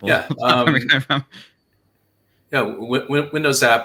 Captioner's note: laughs